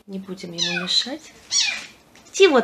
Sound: kitten meows

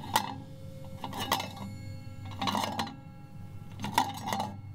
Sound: metal Clanging Continues

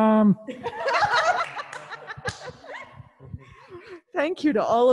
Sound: laughing

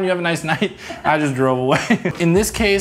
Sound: laughs

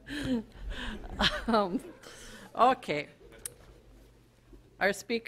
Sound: audience laughter

